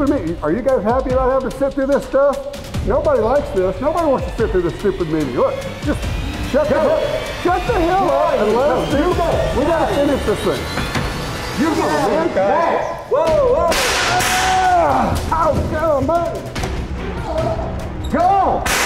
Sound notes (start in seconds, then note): 6.3 voiceover; 11.7 voiceover; 13.7 moans; 13.8 gun fires; 16.9 voiceover